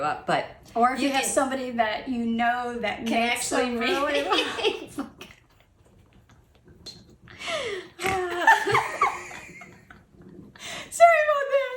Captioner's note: laughing... snort... more laughter